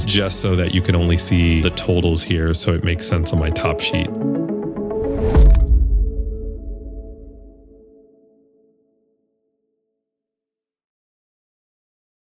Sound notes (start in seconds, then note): 4.8 logo whooshing